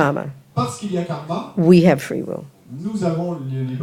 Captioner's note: speaking in French